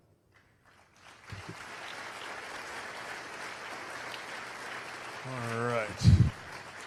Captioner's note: applause